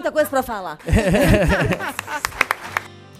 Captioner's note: chuckles